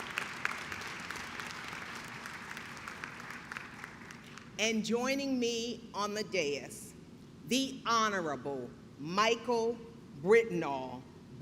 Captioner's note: clapping